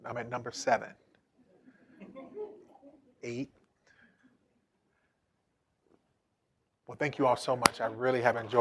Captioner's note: laughter